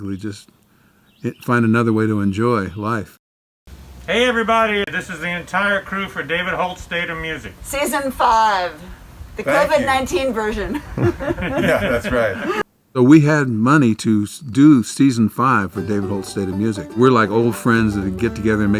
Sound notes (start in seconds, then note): 10.4 laughing; 15.7 upbeat music